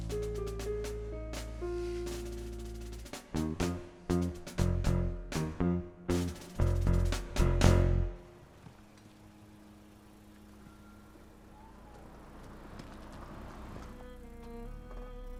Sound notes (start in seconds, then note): 0.0 playful music; 8.9 engine rumbling; 8.9 pensive music